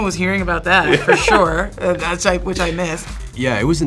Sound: Lukas laughs

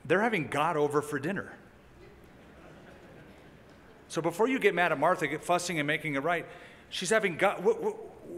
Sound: laughter

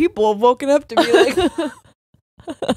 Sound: both laughing

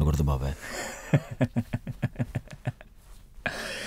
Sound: laughs

